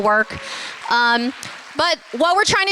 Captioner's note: applause